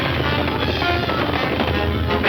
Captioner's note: gun shots firing; lightening crashes; gun shots firing